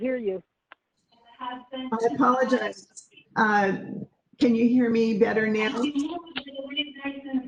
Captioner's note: TV voice in background